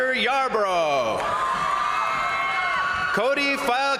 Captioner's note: crowd cheering; crowd applauding